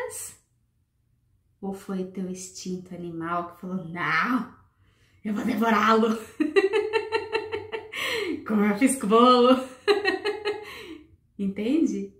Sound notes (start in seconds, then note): 8.5 laughs